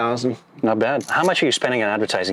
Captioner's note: camera clicks